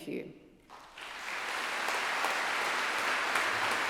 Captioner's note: applause